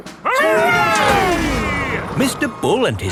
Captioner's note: all cheering